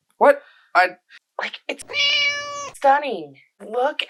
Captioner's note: meow